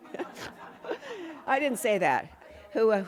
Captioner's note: laughter